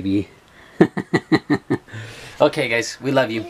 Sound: laughs

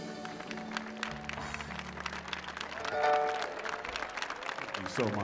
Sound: audience applauding

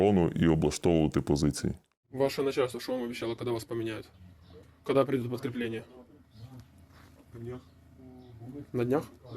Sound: interrogating a POW in Russian; speaking in Russian

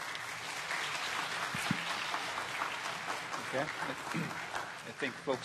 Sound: applause

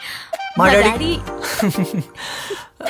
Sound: laughs

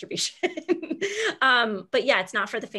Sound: laughs

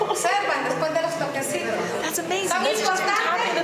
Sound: speaking foreign language

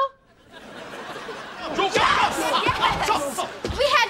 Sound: screaming

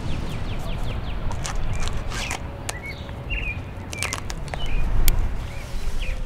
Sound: tree climbing sounds; birds chirping

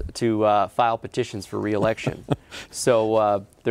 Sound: laughing

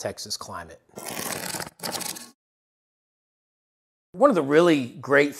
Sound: cardboard ripping

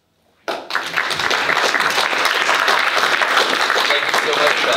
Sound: audience applauding

